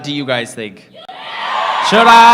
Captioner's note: crowd yelling